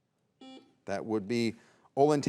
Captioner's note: buzzer beeps